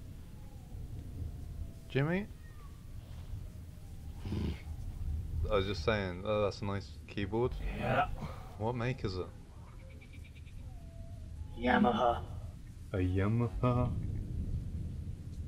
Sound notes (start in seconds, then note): 4.2 grunts